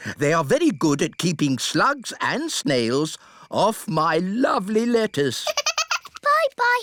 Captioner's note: giggles